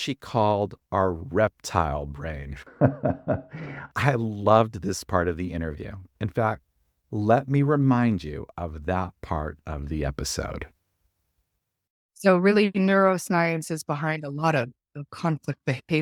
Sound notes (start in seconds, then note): 2.6 laughs